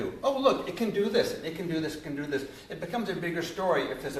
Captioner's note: none